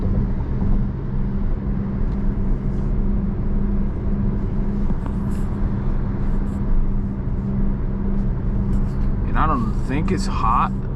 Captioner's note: car engine revs